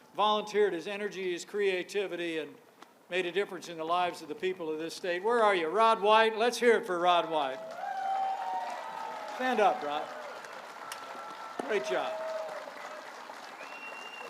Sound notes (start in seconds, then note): 7.4 applause